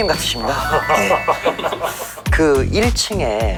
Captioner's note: he laughs like a Chairman